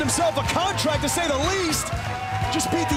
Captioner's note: crowd cheering